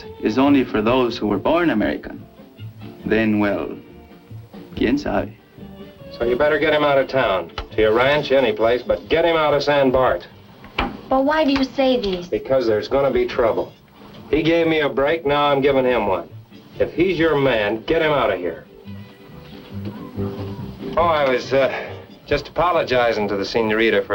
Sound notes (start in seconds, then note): 4.8 spanish